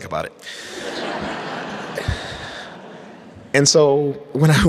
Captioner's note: audience laughs